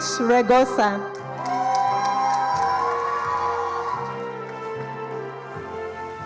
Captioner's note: attendees cheering and applauding